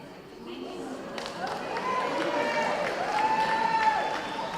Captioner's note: audience cheering